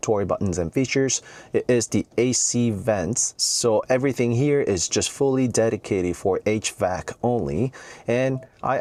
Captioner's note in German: hvac